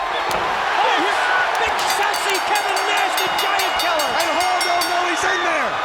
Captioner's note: crowd cheering drowns out commentators